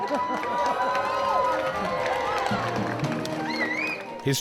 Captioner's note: crowd cheering